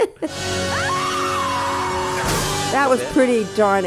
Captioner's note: scream